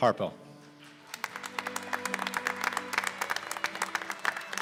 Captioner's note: applause